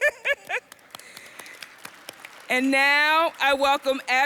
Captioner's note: audience applauds